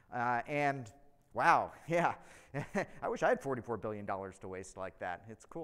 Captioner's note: chuckles